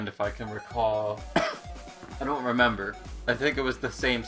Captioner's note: cough